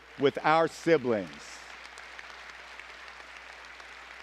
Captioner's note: applause